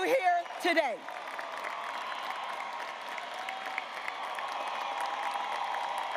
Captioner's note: graduates applauding and cheering